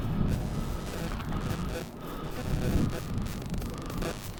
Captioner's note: glitch sound